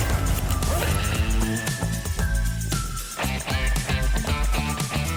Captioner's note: ice-jet roar